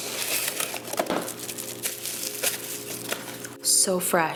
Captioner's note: paper crunkles